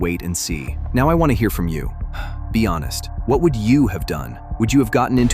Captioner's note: exhales sharply